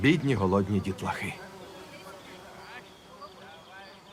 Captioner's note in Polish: bzyczenie much